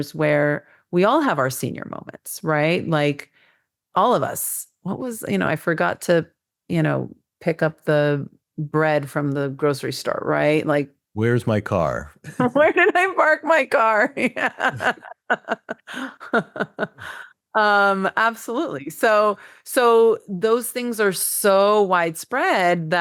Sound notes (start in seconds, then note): 11.2 chuckles; 14.2 laughs